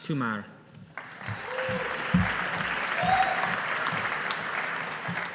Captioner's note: audience applauding